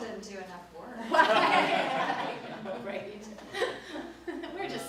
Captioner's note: both laugh